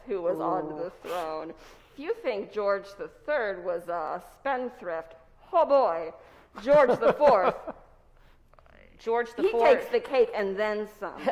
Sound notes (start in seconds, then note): 6.7 laughs